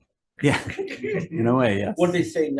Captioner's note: laughs